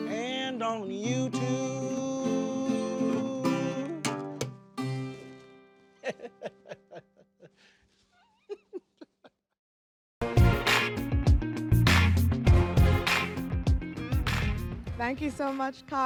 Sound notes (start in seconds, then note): 8.1 laughing; 12.9 upbeat music